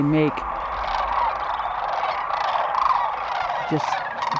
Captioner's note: cranes calling